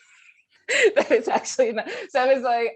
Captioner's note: laughing